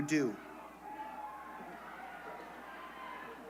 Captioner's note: cheers